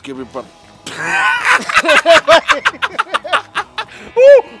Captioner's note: Laughs Again